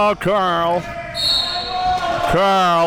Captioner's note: whistle blowing